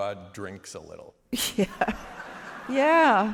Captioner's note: laughter